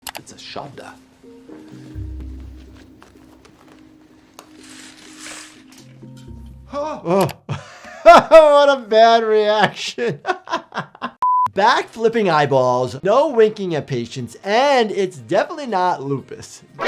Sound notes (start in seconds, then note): 0.4 speaking foreign language; 4.7 blinds clanking; 6.7 laughs; 11.2 tone beeps